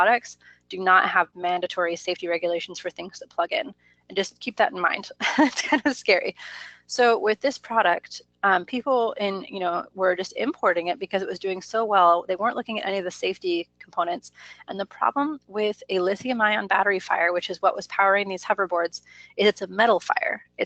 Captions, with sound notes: do not have mandatory safety regulations for things that plug in. And just keep that in mind. (laughs) It's kind of scary. So with this product, people were just importing it because it was doing so well, they weren't looking at any of the safety components. And the problem with a lithium ion battery fire, which was what was powering these hoverboards, is it's a metal fire.